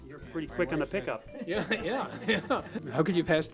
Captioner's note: laughing